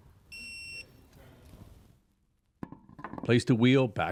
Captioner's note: tool beeping